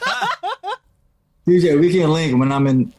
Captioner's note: laughing